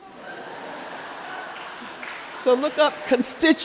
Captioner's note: crowd laughing